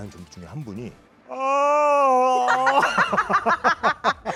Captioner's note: yawning